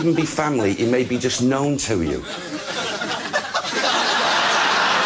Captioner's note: audience continues laughing